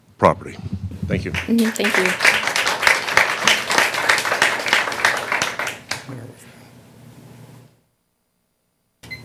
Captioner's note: applause